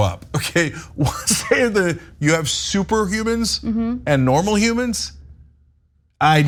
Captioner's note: laugh